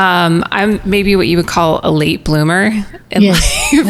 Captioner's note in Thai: หัวเราะ